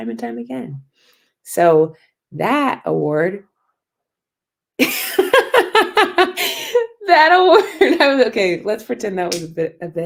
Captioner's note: laughter